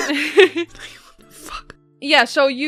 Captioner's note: laughter; whispering